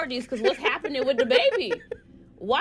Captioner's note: laughter